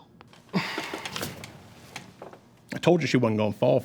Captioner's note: Greg sighs